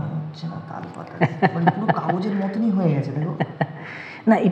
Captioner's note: laughs